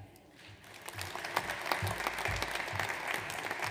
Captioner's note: audience applauds